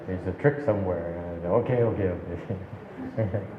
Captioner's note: and audience laughs